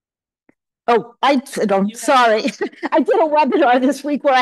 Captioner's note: laughs